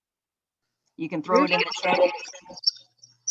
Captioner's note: screeching as someone unmutes, then someone answers, a river?